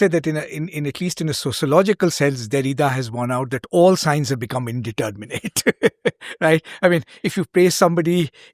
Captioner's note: laughs